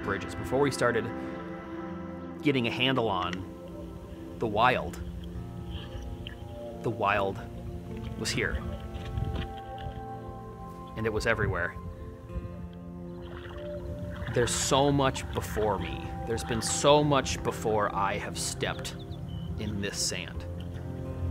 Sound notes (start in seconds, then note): 13.6 water sloshing